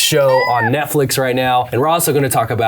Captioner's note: squeals